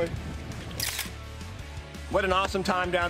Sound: camera snapping

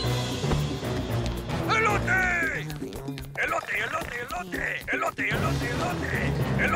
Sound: toy talking in Spanish

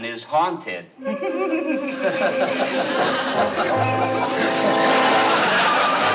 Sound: laughs

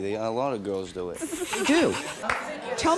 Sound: laughing

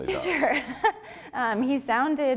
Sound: laughter

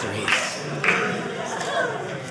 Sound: audience laughing

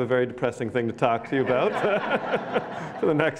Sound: laughs

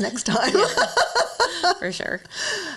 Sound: both laughing

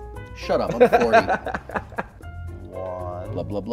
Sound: laughter

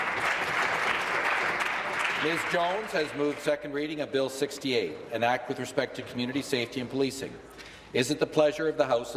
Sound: applause

